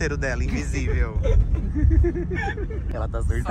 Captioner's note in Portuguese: risos